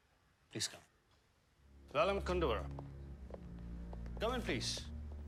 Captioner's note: speaking foreign language